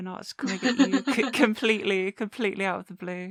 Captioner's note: laughter